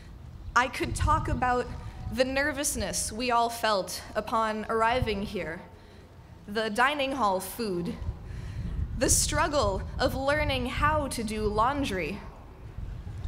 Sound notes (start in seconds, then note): none